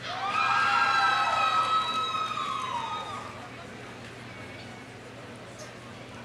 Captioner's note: audience cheering; audience applauding